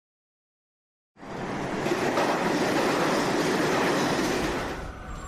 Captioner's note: train rumbling